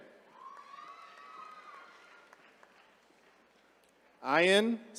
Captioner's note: attendees cheering